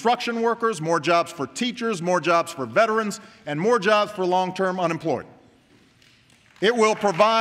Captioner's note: applause